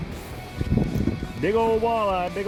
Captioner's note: wind blowing